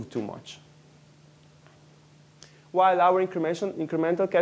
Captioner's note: pause